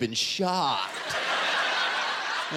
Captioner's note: laughter